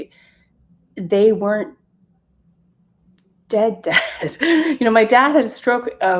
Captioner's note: chuckles